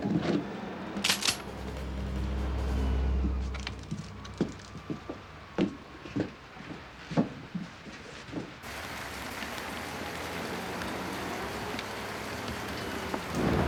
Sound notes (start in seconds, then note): 1.3 siren wailing; 8.6 rain pattering